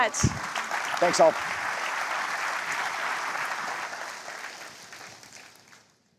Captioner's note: applause